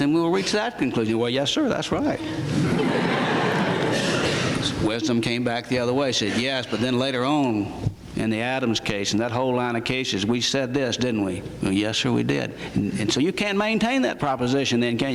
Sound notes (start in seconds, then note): 2.1 laughter